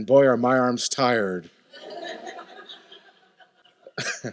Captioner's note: laughter